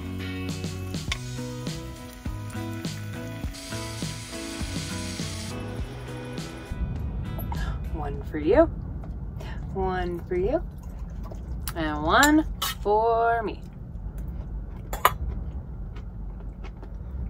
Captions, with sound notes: (pot sizzling) One for you. One for you. And one for me.